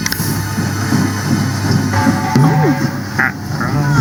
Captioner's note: washing machine noise